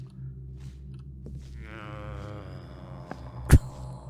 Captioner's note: zombie moans again